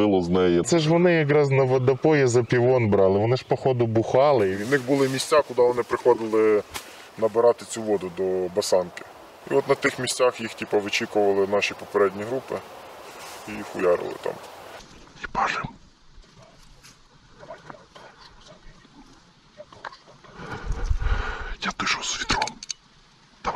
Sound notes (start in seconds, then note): 18.3 whisper sound